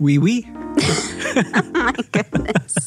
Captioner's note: laugh